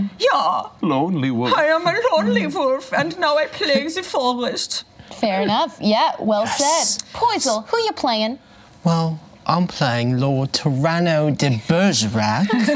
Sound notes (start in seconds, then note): 0.3 imitates German accent; 8.9 imitates British accent